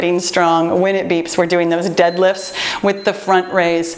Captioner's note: timer beeps